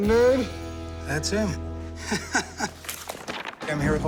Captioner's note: chuckles